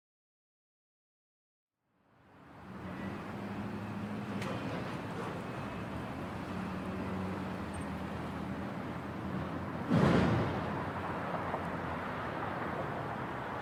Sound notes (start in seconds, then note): 4.3 muffled sounds of traffic in the distance; 9.9 door slams shut; 11.3 muffled sounds of traffic in the distance